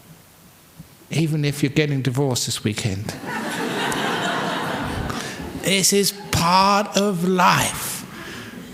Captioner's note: laughter